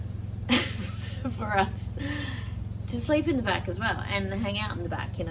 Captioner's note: laughs at interruption